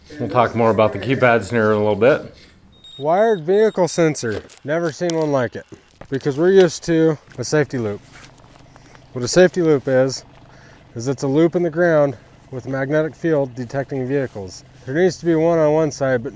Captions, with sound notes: - We'll talk more about the keypads here in a little bit. (device beeping) Wired vehicle sensor. Never seen one like it because we're used to a safety loop. What a safety loop is is it's a loop in the ground with a magnetic field detecting vehicles. There needs to be one on one side,